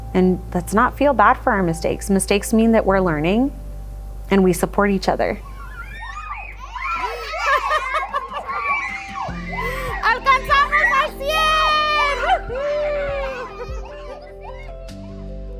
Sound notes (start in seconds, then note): 6.5 children chattering; 10.0 speaking in foreign language; 13.3 children chattering